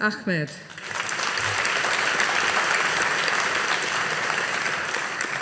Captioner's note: audience applauding